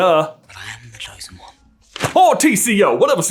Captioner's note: thwap